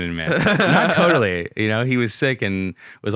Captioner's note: laughing